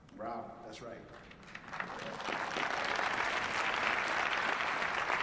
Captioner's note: applause